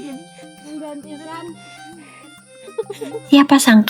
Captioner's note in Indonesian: tertawa